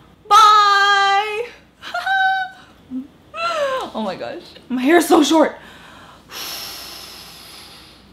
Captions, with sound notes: Bye! (laughs) Oh my gosh, my hair's so short! (prolonged exhaling)